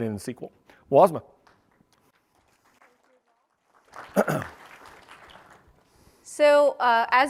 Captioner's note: applause